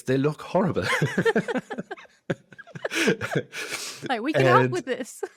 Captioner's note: both laughs